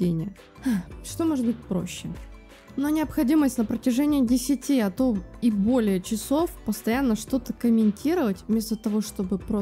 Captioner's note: sigh